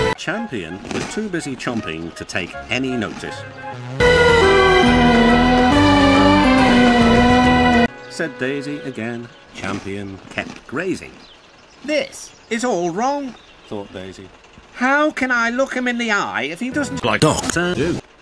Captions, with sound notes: Champion was too busy chomping to take any notice. *Daisy continues 'Oooooo'ing the theme* Said Daisy again, Champion kept grazing. 'This, is all wrong!' Thought Daisy, 'How can I look him in the eye if he doesn't like Doctor Who?'